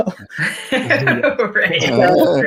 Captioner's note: laughing